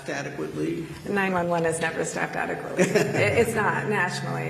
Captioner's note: laughter